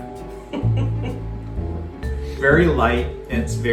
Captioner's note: laughs